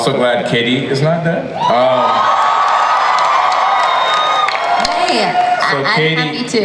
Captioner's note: audience cheers